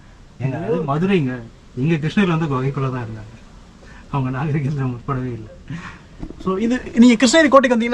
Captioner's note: friendly banter